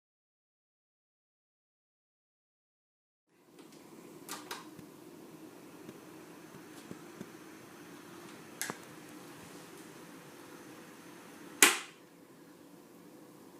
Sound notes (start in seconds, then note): 5.6 fan blowing; 11.7 fan stops